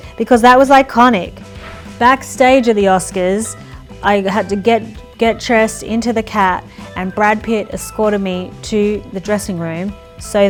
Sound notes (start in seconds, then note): none